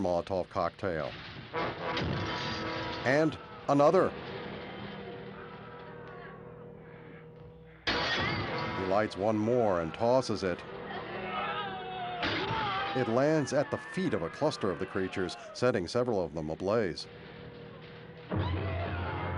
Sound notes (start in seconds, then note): 9.1 groaning